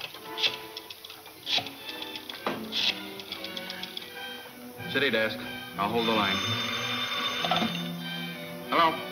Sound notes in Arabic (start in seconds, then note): 5.8 رنين الهاتف